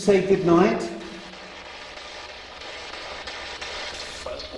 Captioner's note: static buzzing